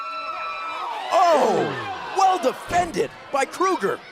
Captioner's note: crowd cheering